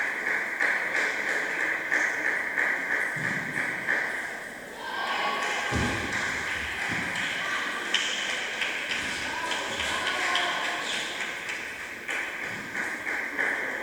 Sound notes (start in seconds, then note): 5.8 applause